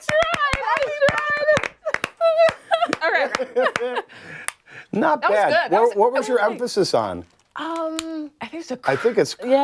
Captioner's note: laughter